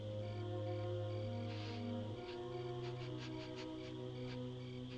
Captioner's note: sniffing